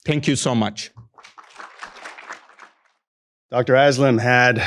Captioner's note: attendees applaud